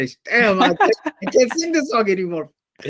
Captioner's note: laughter